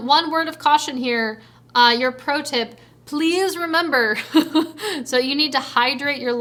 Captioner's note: chuckles